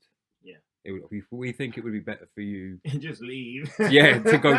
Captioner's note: laughter